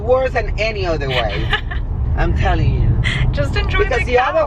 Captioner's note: laughs